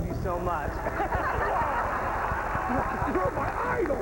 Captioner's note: laughter